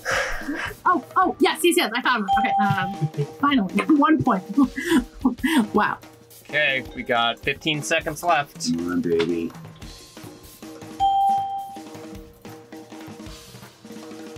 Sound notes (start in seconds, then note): 0.0 sighs; 2.7 laughs; 11.0 bell rings